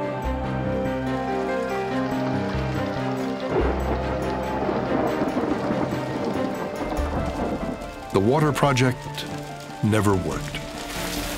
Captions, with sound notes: ( thunder crashes ) The water project never worked.